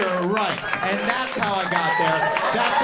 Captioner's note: audience cheering